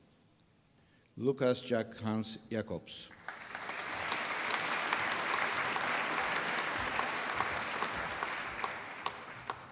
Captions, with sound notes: Lucas Jack Hans Jacobs. (APPLAUSE)